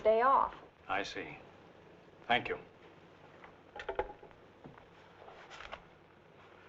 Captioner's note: receiver thumping